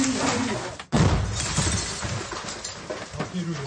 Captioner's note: crack, glass shatters